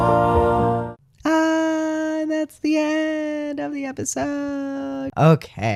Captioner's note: high voice